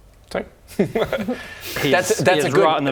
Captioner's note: manipulative laugh